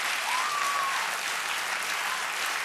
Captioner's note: cheers and applause; applause